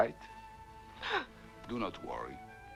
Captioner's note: Hundra gasps